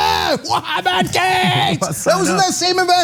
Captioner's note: laugh